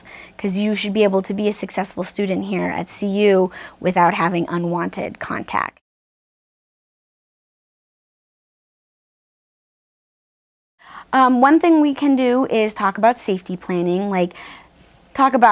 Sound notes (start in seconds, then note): 6.0 silence